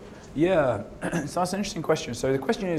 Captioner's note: cough